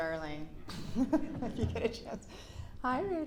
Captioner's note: giggles